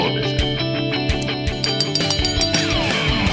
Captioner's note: bell ringing